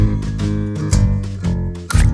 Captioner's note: click